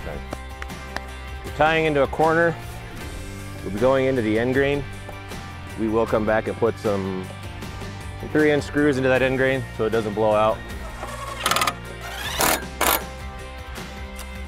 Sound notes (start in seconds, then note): 0.2 clap clap; 10.8 drill buzzing